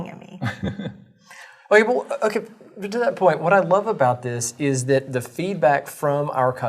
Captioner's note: laugh